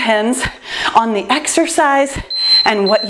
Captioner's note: timer beeps